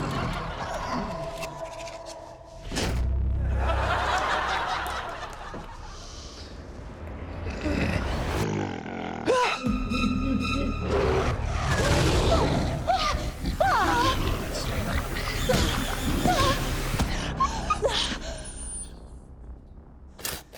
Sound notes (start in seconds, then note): 0.0 menacing growl; 2.4 spits; 3.4 laughter; 5.8 inhales deeply; 7.2 menacing growl; 10.0 low, evil laughter; 11.7 snarling; 11.7 snarling continues; 15.4 grunts; 17.4 high-pitched squeak